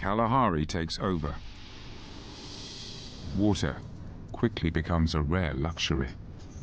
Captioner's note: birds chirping; dramatic music